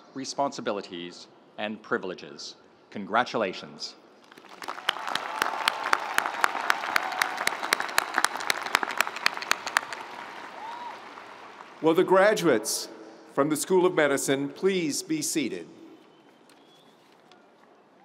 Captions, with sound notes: responsibilities, and privileges. Congratulations. (audience cheering) (audience applauding) - Will the graduates from the School of Medicine please be seated?